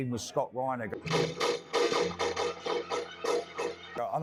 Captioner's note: multiple gunshots